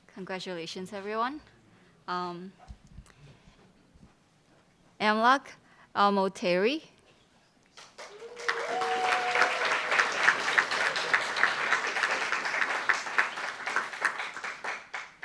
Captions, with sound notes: - Congratulations, everyone. Amlak Almutairi. (cheers)